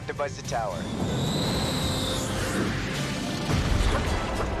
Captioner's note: jet engine whirring